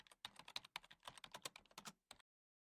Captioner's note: keyboard sound